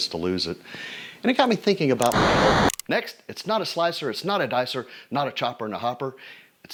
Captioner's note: static